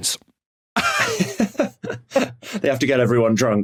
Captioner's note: laugh